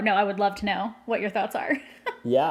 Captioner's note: laughs